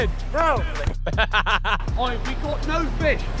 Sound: Ethan laughs

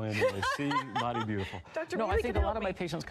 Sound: laughs

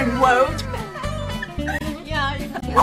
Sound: laughing

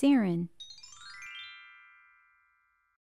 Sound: chime sound

